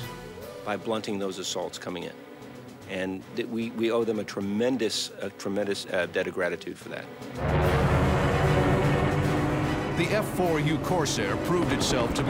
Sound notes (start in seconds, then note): 7.3 plane roaring